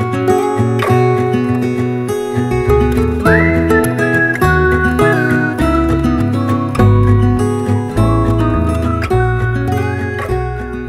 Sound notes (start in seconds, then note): 3.1 whistling